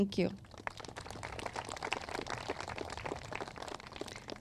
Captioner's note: crowd claps